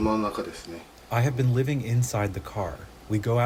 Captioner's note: through translator